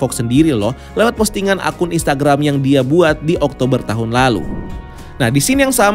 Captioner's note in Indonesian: suara transisi